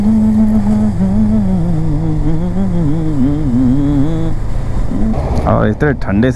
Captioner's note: humming